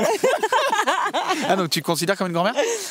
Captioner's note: laughs